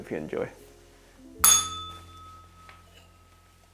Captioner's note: bell rings